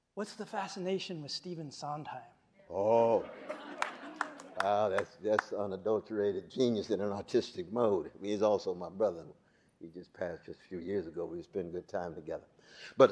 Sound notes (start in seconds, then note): 2.8 audience laughing